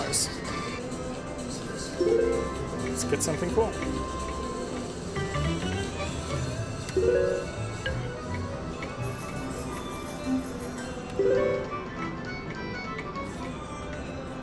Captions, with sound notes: Let's get something cool. (cheerful music) (machine beeps)